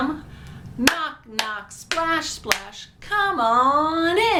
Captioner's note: claps